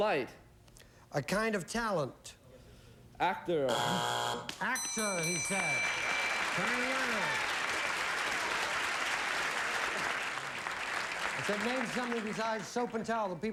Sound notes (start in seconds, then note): 3.7 buzzer; 7.9 applause